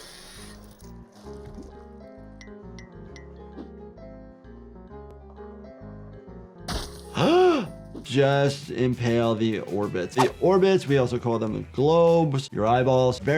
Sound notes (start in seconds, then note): 0.1 upbeat music; 2.8 stick tinkering; 3.8 upbeat music; 7.0 sockets squishing; 7.2 doctor gasping